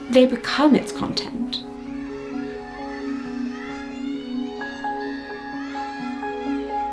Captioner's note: gentle music; children shouting